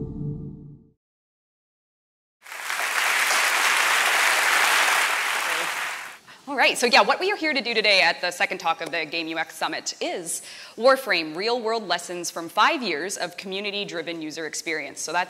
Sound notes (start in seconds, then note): 2.4 applause